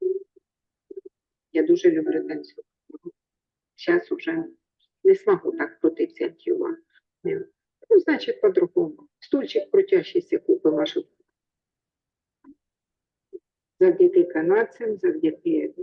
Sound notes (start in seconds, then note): 1.9 speaking in foreign language